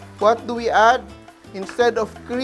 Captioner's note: sizzle